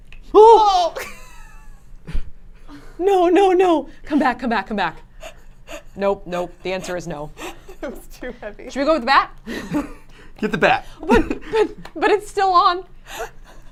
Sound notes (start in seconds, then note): 0.3 screams